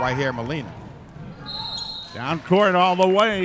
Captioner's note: referee whistling